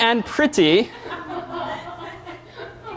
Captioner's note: laughter